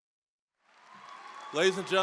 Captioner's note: cheering, applause